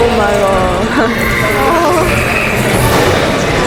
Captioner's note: creatures snarling